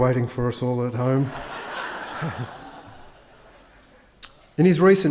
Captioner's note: attendees laugh; Tim chuckles